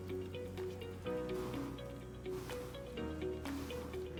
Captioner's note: flame bursts